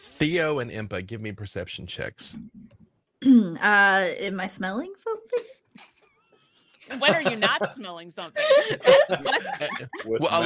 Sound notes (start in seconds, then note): 8.3 laughs; 8.3 players laughing